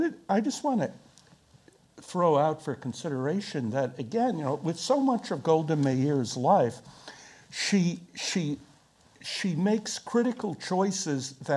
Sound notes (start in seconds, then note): none